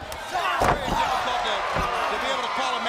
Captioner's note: crowd chatter